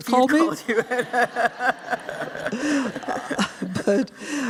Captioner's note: laughter